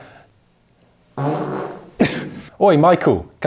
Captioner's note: chuckling; loud fart